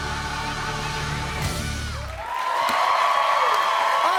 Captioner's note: cheers and applause